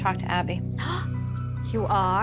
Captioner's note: gasps